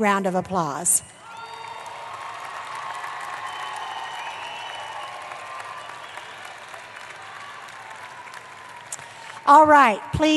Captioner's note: applause